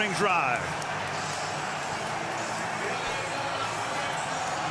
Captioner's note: cheering